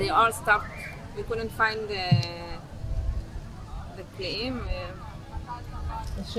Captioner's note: hebrew